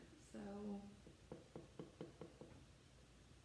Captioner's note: cup hitting the sides of the bowl